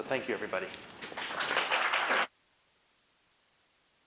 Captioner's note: applause